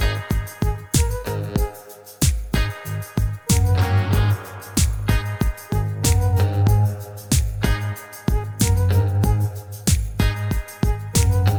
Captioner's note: clap